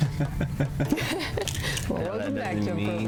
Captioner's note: laughs